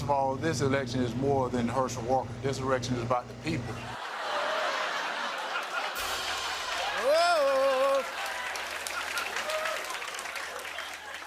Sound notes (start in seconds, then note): 3.8 laughter and applause; 7.8 applause